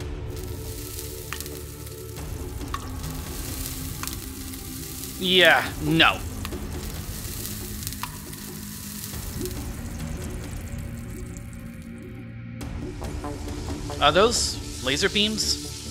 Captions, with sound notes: (DRIPS) (SIZZLES) Yeah, nope. Are those... laser beams?